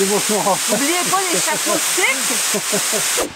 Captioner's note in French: rire